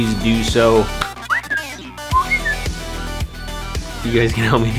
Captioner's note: whistles